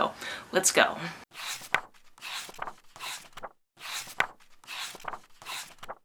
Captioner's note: pages turning